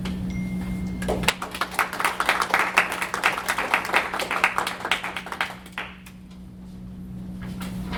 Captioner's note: chyming sound; applause